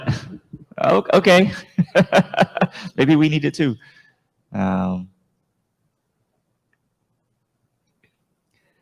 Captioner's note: laughs